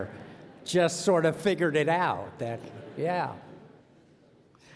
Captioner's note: laughter